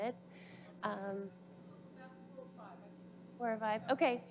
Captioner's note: faint voice from the audience